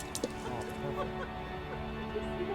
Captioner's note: laughs